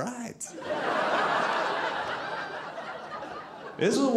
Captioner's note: audience laughing